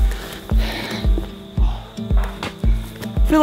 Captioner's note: puffing